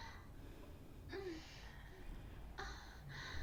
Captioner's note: breathing